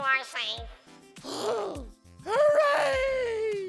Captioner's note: gasp